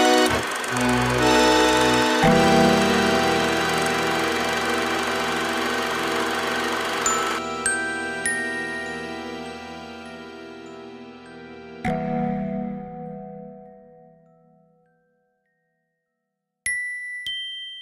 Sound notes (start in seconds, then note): 6.8 bells tinkling